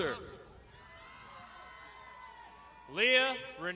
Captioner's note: crowd shouting